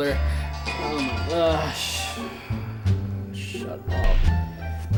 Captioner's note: phone ringing